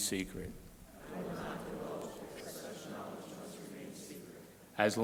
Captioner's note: crowd repeating